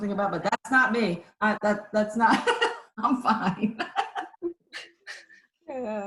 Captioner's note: laughs